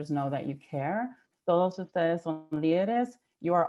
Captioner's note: speaking in Spanish